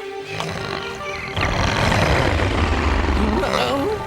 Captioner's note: growling